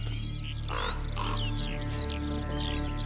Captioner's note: caws